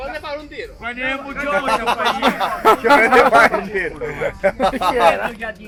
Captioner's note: laughing